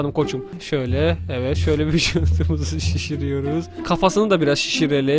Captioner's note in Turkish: Gülerek